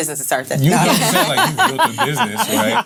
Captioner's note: laughs